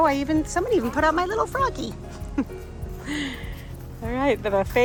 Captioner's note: laughs